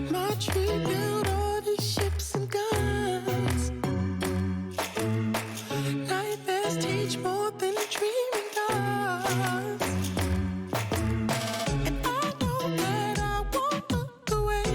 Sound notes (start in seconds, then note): 7.7 applause